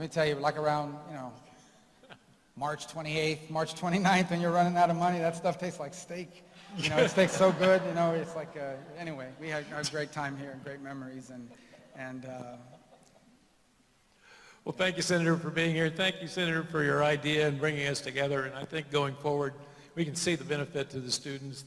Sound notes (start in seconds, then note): 6.6 laughter